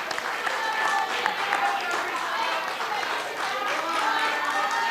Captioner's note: chanting